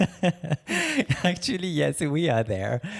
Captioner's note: laughing